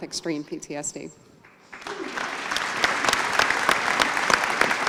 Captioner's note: applause